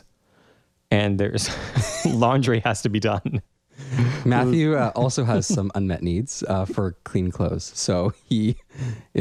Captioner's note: laugh